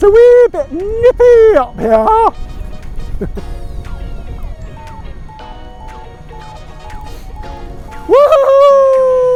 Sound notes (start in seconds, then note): 1.2 Vario beeps; 2.6 light upbeat music